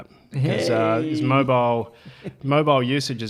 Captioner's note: mock cheers